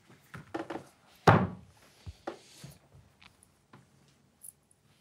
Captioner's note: hands smacking table